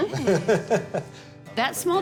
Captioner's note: all laugh